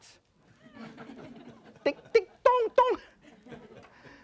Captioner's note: laughter